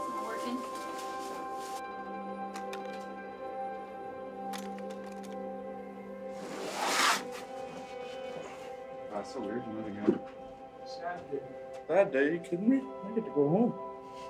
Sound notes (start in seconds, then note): 2.3 rattling; 6.3 bag scrapes